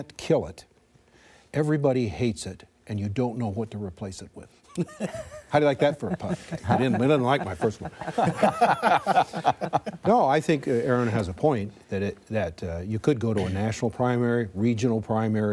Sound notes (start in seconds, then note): 9.0 laughter